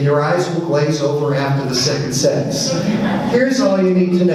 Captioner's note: audience laughs